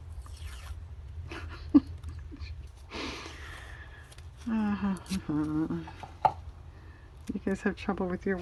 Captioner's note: laughs